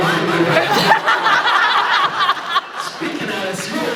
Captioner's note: laughs